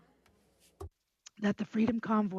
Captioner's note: speaking French